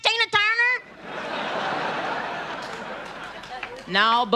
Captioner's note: audience laughter